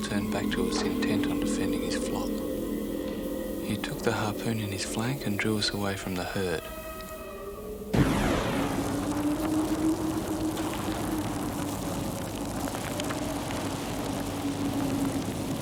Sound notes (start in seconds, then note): 8.3 tense music; 10.6 flame crackling